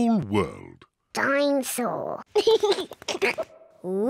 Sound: giggles

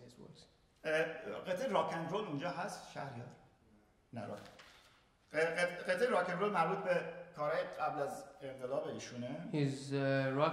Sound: speaking in farsi

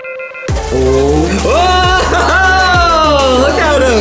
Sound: beeping; yelling; laughing; cheering

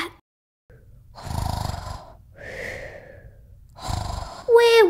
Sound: snoring

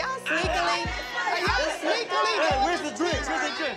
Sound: all exclaiming

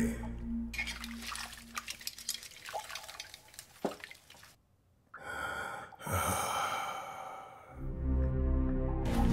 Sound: water dripping

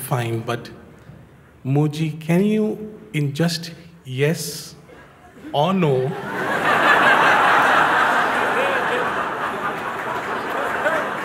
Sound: laughter

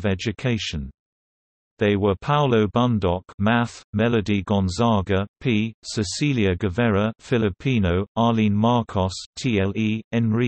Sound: filipino

